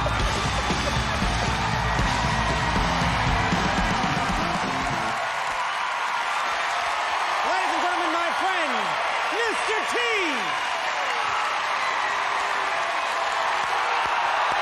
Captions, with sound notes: (audience cheering) (audience cheering) Ladies and Gentleman, my friend, Mr T. (audience cheering)